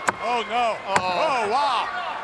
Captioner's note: hammer thuds